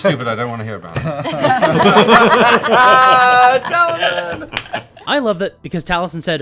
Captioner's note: laughter